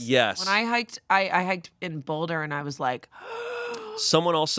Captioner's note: wheezes